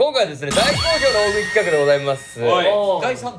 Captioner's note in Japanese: 効果音 シャキーン✨